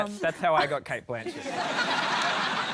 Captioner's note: laughter